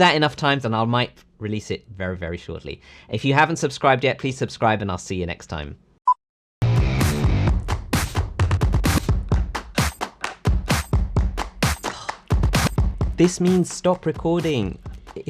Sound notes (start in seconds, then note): 6.0 beep; 6.7 upbeat music